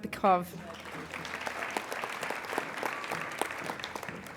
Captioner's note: applauding